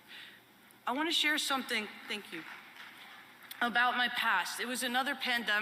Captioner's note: light applause